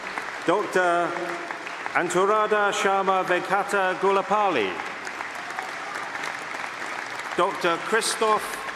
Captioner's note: applause